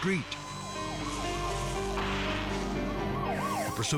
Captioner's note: siren blaring